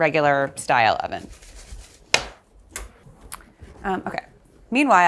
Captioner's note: eggplants rustling